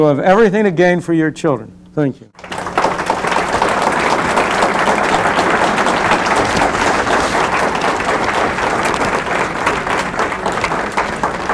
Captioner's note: applause